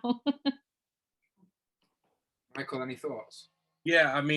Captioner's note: laughter